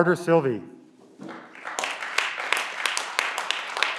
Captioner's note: clapping